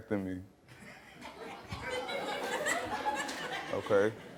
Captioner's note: audience laughing